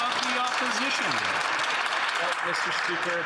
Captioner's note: some Applause